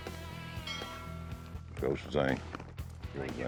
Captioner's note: bell rings